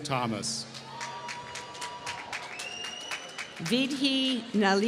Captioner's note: applause